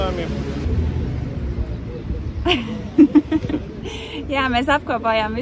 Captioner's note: awkward laugh